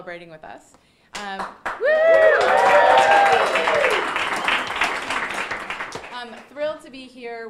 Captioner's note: audience applauding and cheering